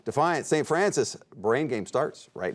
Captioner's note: none